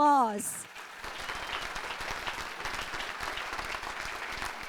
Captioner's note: audience applauding